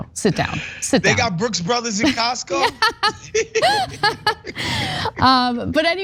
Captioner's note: laugh